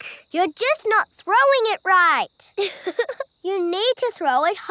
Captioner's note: chuckles